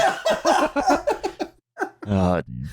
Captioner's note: laughs hysterically; laughs